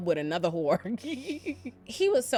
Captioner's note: laughs